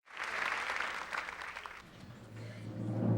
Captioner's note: applause